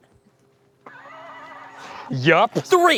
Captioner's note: tinny horse whinny